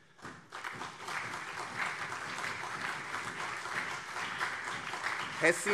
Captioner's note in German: Beifall CDU und SPD